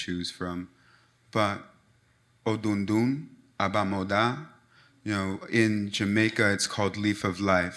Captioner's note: speaks in Foreign Language